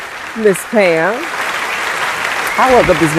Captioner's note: applause